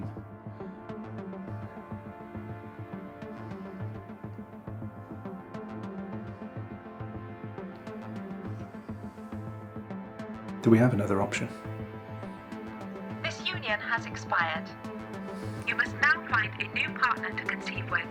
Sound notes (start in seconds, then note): 0.3 dramatic music; 13.2 robotic Voice